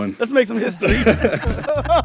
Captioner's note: laughter